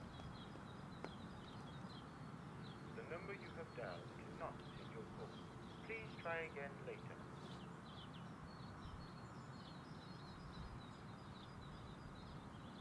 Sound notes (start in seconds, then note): 7.3 birds chirping